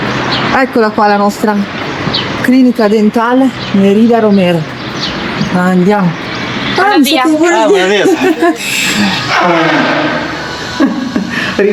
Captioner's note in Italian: risate